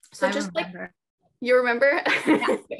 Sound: laughs

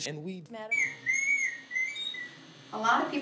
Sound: garbled, distorted voice; high-pitched squeaking

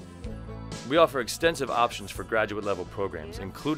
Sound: voiceover

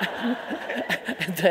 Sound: audience laughing

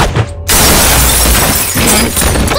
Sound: gunshot; glass shatters

